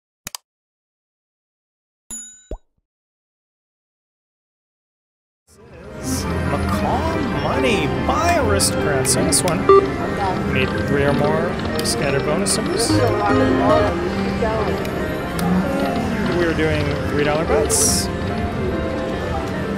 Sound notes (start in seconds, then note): 0.2 clicking sound; 2.2 bell ringing; 14.3 slot machine chiming